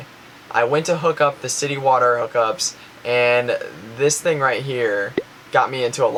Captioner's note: bubble noise